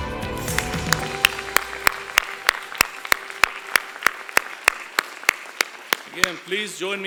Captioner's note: applause